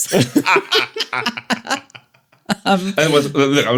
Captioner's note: laughter